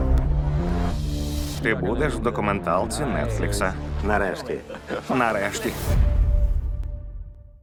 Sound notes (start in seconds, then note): 4.4 chuckling